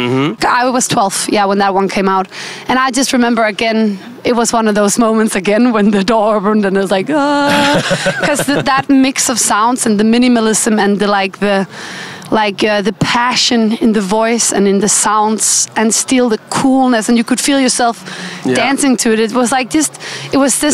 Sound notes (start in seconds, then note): 7.5 ahhhhh